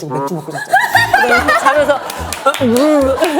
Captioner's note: hahaha